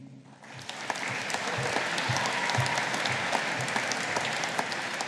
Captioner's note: audience applauding